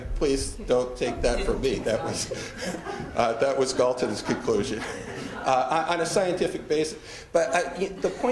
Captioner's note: audience laughter